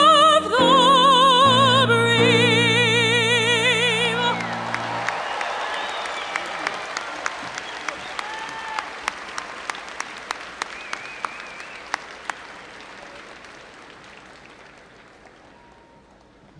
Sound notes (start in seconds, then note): 4.8 audience applauding